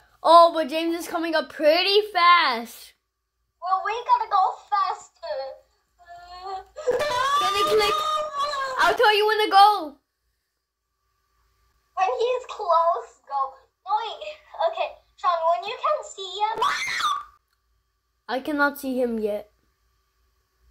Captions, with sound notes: Oh, But James is coming up pretty fast. Well, we gotta go faster! (Screams) I'll tell you when to go! When he's close, go. Oh, wait. Ok, Shaun, When you can see him- (Screams) I cannot see him yet.